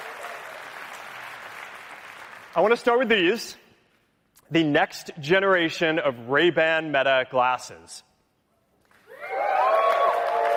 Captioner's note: cheering